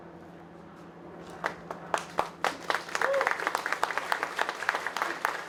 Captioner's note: applause